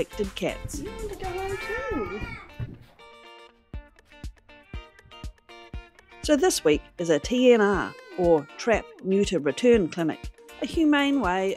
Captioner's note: cat meows